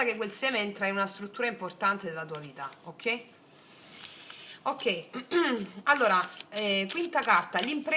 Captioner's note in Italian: schiarire la voce